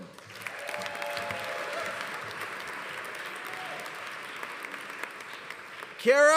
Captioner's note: audience applauding; audience cheering